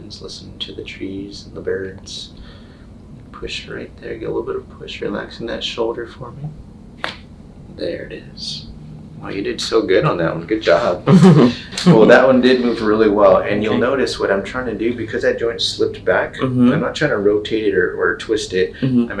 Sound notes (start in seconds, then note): 7.3 joints crack; 10.6 chuckles